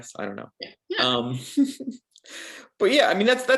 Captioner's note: both chuckling